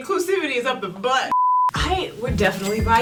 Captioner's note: beep